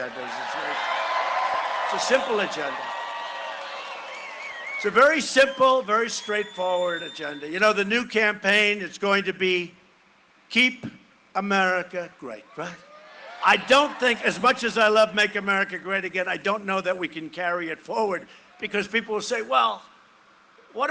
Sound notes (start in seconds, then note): 9.1 cheering and applause